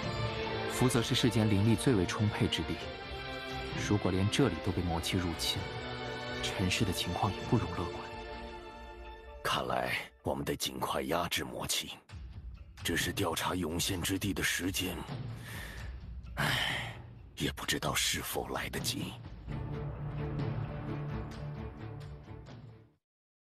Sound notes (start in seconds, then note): 16.3 sigh